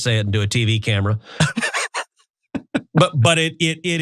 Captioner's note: laugh